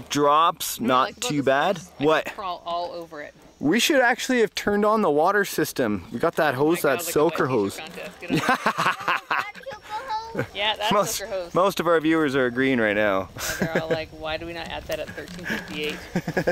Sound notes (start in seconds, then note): 8.2 laughing